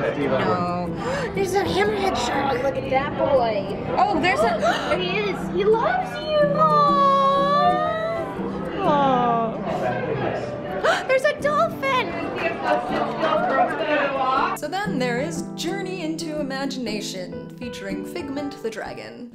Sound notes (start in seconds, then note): 4.4 gasps and aws; 10.9 gasps